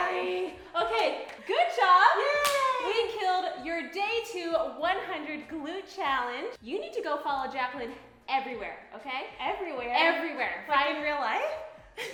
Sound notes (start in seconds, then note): 2.2 clap hands